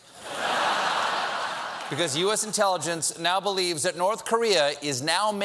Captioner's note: laughter